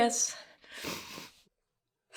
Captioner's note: lyssa sniffles